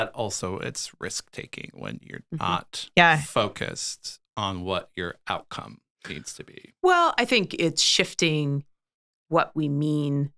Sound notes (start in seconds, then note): 2.4 laughs